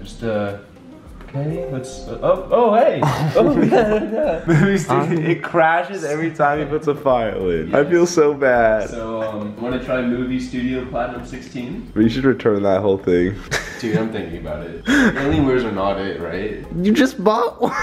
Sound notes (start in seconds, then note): 13.5 man happy laughing